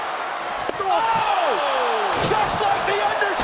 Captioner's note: crowd cheering